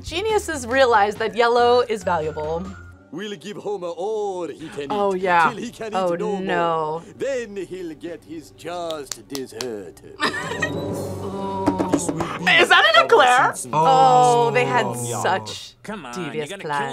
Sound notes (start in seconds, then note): 10.2 laughs